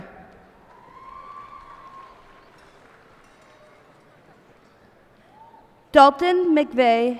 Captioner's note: cheers and applause